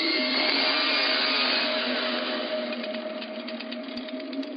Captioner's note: chain saw buzzing